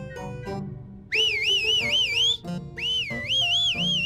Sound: whistles victoriously

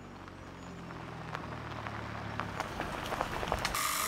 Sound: tires rolling

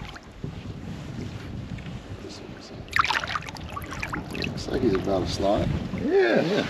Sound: fish splashing

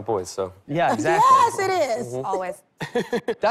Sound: chuckles

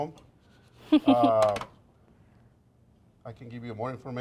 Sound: laughs

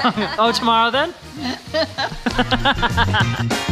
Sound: laughing; upbeat music

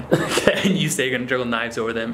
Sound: laughs

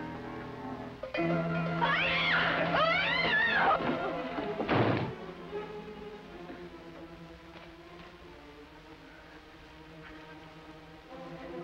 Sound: bell dinging; screaming

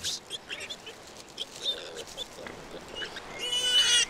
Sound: piglets squealing

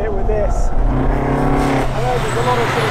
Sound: engine revving

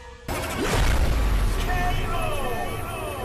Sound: explosion resounding

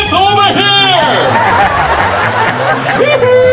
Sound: audience laughs

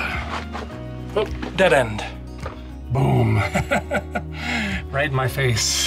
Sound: laughter

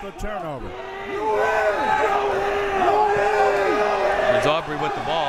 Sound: crowd members shouting

